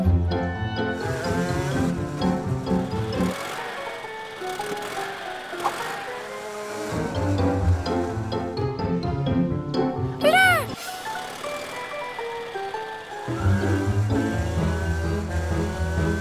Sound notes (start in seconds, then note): 0.2 light music; 3.2 zooms; 5.5 light music; 10.2 gasps